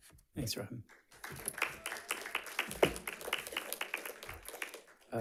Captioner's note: audience clapping